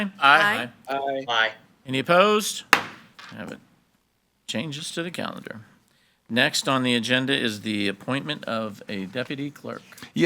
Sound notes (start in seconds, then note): 2.7 gavel bangs